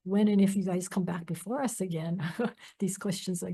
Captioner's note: laughs